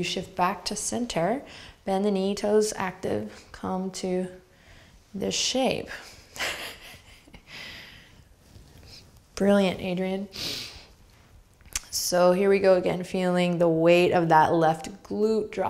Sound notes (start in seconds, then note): 6.0 laughs